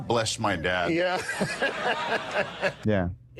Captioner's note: audience laughing